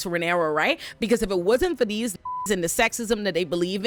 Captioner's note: beep